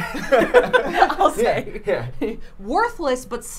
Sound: laughing

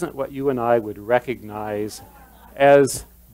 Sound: laughter

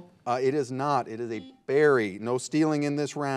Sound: buzzer buzzes

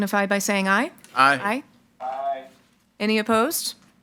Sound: in Unison

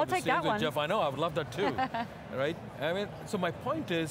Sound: laughing

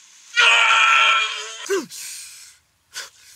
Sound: screaming

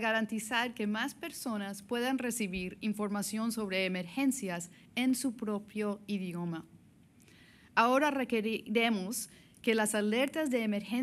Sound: speaking spanish

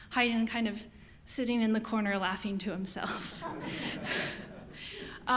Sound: audience laughter

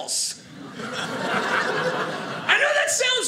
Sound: audience laughing

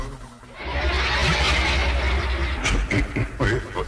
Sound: laughs

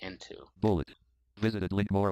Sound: screen reader voice

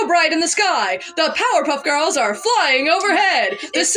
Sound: boisterous Voice; giggle

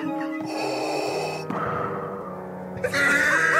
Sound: breathes; laughter gets more hysterical

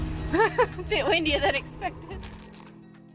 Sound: laughs

